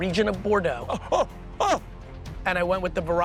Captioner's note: gasping